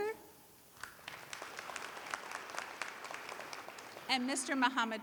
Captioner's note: applause